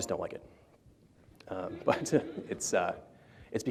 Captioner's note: laughter